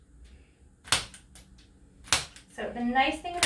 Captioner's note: tool clicks